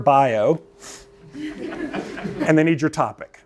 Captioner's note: laughter